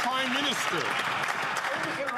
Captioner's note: some Applause